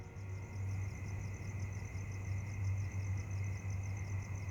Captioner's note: insects chirring